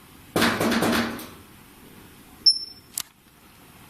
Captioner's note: knocks on locker; beeping